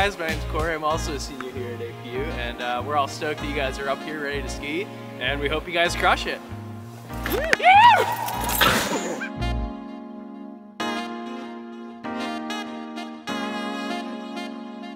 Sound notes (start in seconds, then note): 7.2 group cheers; 9.7 upbeat music